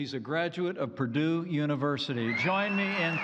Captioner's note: applause